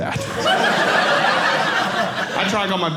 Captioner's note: audience laughing